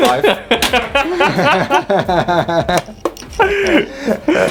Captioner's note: laughing